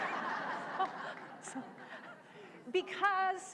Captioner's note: laughter